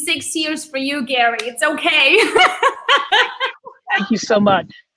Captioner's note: laughs